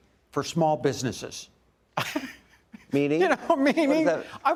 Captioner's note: laughs